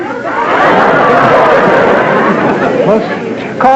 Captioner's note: hooting and hollering